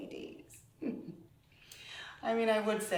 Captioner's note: laughing